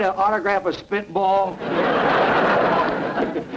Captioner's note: audience laughter